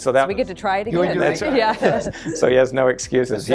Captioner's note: laughter